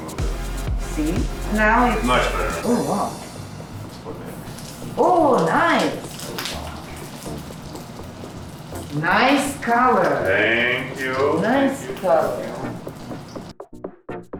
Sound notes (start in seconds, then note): 6.2 sounds of tofu frying